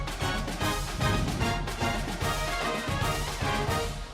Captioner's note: wind whooshes